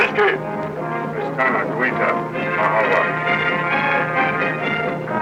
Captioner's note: speaking foreign language